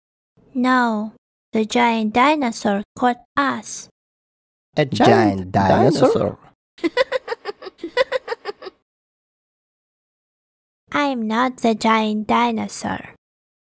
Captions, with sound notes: No! The giant dinosaur caught us A giant dinosaur (Sunny Giraffe is laughing) I'm not the giant dinosaur